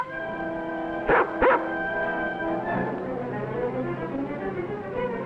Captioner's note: dog barking; dramatic music